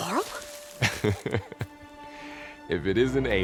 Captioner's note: Varl laughs